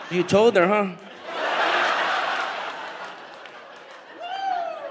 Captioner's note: audience laughs